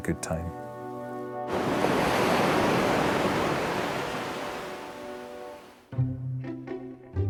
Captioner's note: gentle music; waves roaring; gentle music